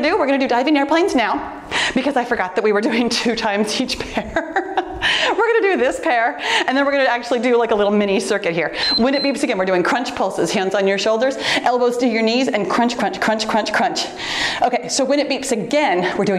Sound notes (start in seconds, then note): 4.0 laughing softly; 8.7 timer beeps